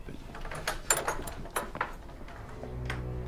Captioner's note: door opening